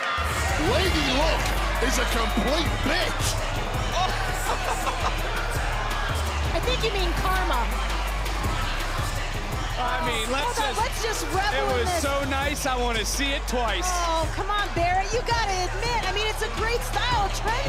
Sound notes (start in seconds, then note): 4.4 laughter